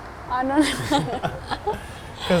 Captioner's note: laughing